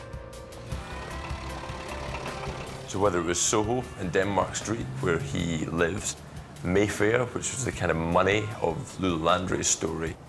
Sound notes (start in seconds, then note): 0.6 car engine whirring